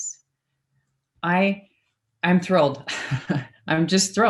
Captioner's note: laughs